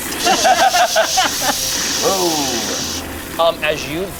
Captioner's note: water spraying